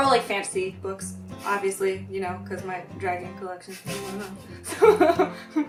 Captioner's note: laugh